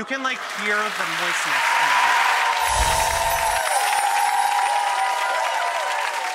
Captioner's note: audience clapping and cheering